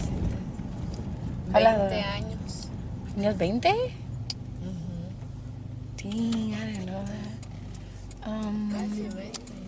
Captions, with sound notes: - (speaks in foreign language) - (speaks in foreign language) Dang I didn't know that.